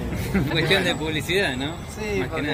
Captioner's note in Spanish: Risas